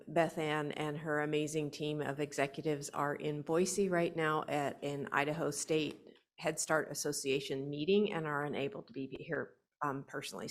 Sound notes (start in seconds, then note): none